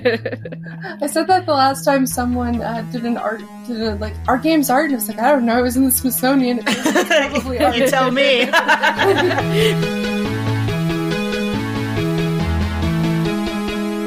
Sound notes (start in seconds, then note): 6.6 laughing